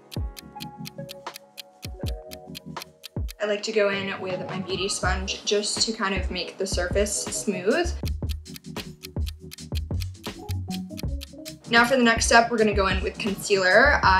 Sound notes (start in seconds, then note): 0.0 clock ticking; 8.4 clock ticking